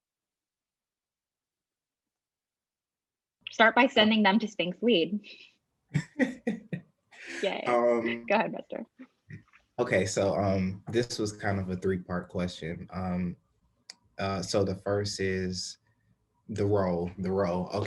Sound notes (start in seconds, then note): 5.9 laughing